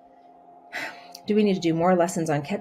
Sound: sighs

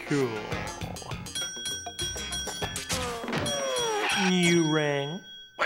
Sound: bell ringing

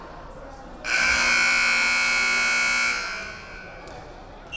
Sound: buzzer buzzing

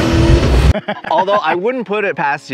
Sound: car engines revving; intense music; laughing

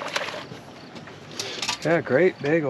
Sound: fish splashing

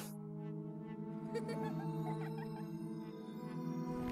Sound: another faint child giggle

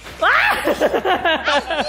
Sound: yells

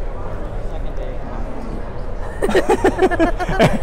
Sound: both laugh

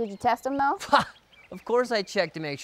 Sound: laughs

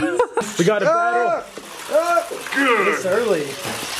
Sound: yelling

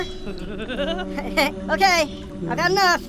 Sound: creepy laughter

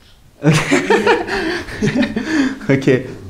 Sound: laughters

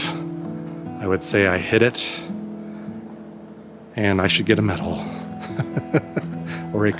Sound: laughter

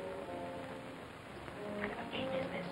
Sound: whispering

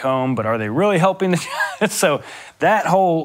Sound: laughing

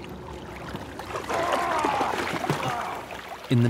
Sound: men strain with effort

